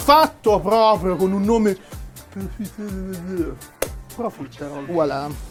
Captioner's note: frenchish pronunciation of profiterole